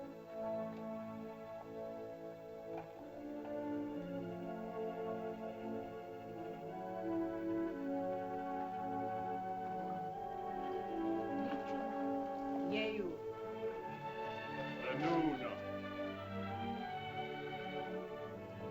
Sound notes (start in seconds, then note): 0.0 soft music; 12.6 woman speaks in caveman language; 14.8 man speaks in caveman language; 17.0 soft music